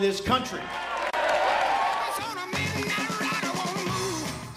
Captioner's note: cheering and applause